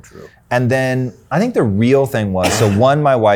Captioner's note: coughs